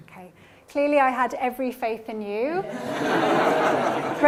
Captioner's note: laughter